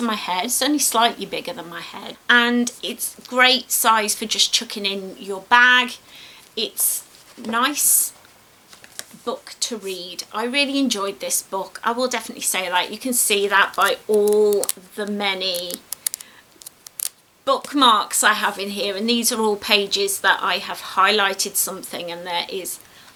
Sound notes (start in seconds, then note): 15.5 sound of bookmarks flicking